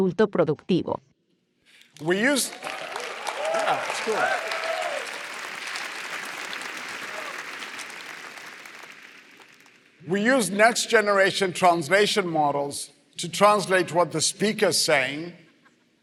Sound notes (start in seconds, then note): 1.7 applause